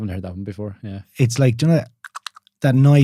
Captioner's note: clicking